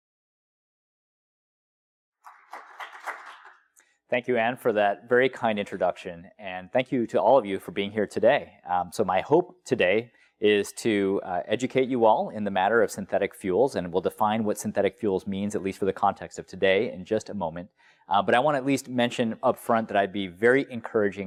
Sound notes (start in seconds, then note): 2.2 applause